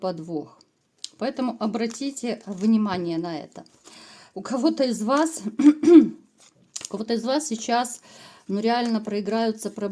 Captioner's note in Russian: откашливается